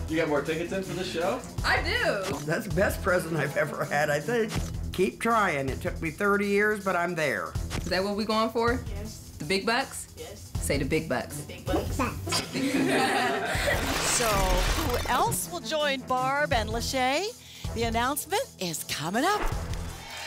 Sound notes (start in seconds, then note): 12.2 laughter